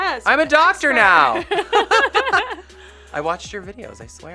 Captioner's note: laughs